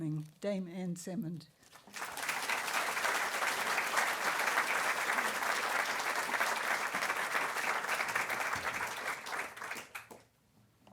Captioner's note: applause